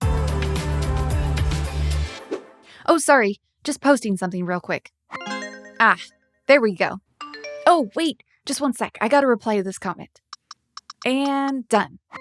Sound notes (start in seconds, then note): 0.0 upbeat music; 5.2 phone chiming; 7.2 phone chiming